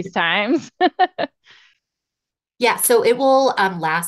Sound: laughing

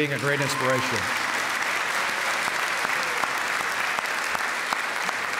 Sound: applause

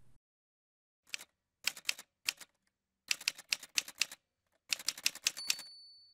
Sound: typewriter sounds

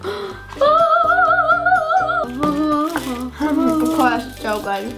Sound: gasps; angelic voice impersonation

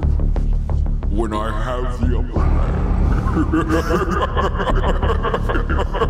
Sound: laughs

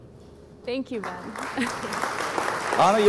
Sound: audience applauds

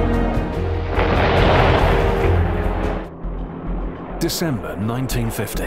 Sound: bom explodes

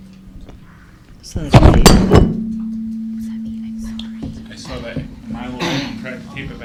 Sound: mic drops

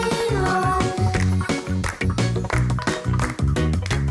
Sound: clap! clap! clap! clap! clap!

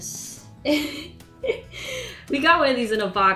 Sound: laughs

